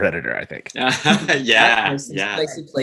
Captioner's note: laughs